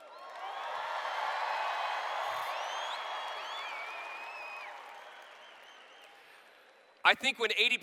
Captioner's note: cheers